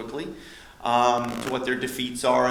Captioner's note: audio buzz